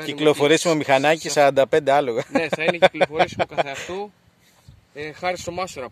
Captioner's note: chuckles